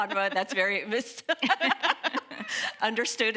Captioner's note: laughing